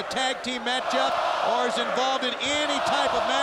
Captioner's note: audience chanting